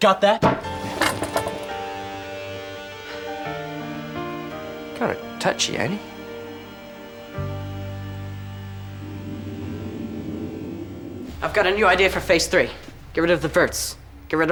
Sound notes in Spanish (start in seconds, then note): 0.1 música dramática; 8.9 viento que sopla